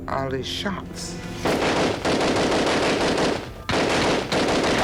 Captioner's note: gunfire